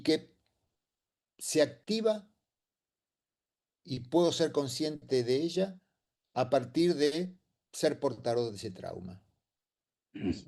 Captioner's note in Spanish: carraspeo